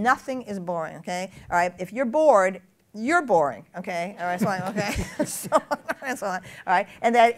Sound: laughter

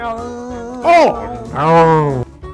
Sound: vomiting sound

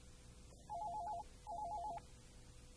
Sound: phone rings

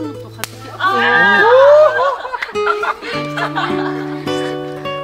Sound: sound of fireworks going off

